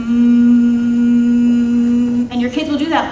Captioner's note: humming